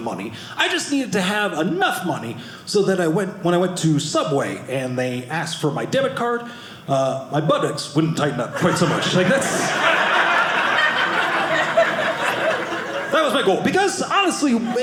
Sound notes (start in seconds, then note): 8.5 audience laughing